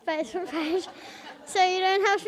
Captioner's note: audience laughs